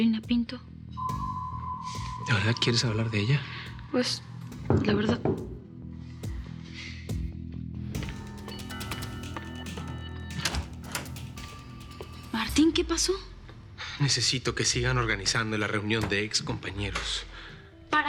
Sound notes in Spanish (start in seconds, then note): 5.3 Toques en la puerta